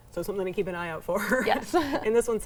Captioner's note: laughs